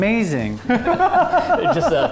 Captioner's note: laughing